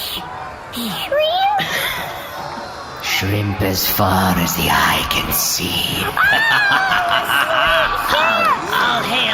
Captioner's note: hesitantly